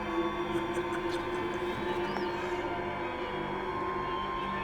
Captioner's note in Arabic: ماكس يضحك